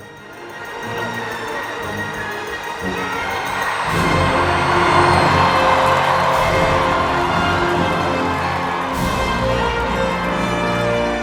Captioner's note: Movie excerpt - Rudy: Sounds of crowd cheering